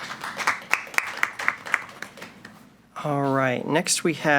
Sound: applause

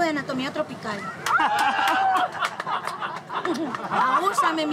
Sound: laughter

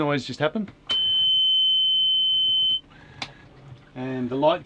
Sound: beeping

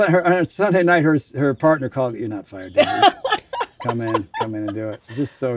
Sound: laughs

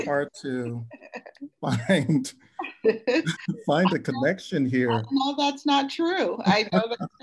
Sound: all panelists laugh

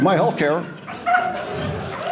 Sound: audience laughing

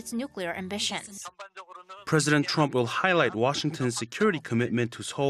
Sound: Korean

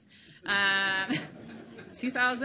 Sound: laughing

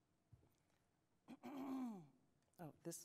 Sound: clears throat

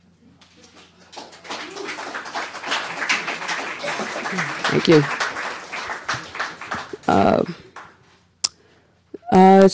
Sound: applause

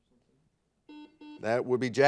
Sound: buzzer buzzes

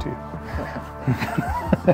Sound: laughter

